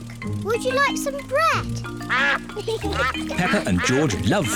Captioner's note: ducks quack